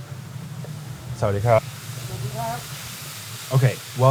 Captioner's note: speaking foreign language